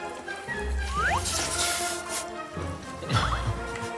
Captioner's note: slurp!